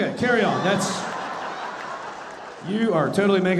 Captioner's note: audience laughing